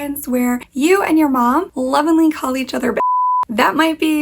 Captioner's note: beep